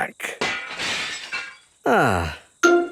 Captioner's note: glass shatters